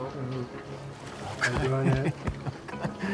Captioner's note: laughs